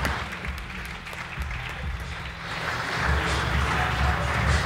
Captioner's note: audience applauds